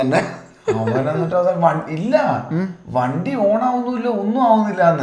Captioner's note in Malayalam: പൊട്ടിച്ചിരി